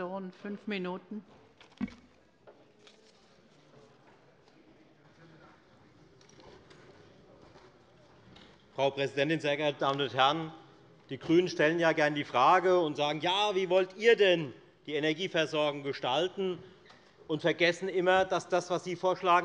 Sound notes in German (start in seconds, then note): none